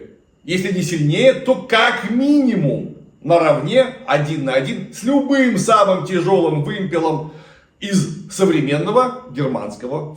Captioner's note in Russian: откашливается